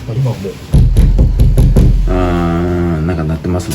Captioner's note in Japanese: 雑音